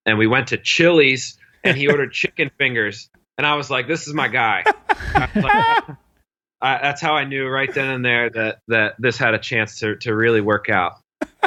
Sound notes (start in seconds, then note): 4.0 laugh